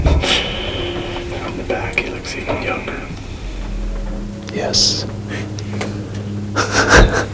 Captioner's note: soft music; whispered voices